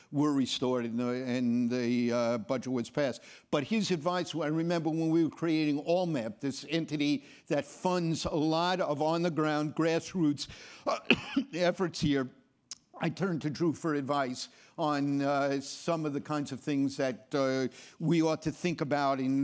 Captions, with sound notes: were restored and the budget woods passed. But his advice, and I remember when we were creating ALLMEP, this entity that funds a lot of on the ground grassroots (coughs) efforts here, I turned to Drew for advice on some of the kinds of things that we ought to think about